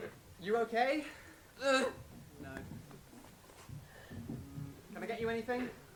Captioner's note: grunts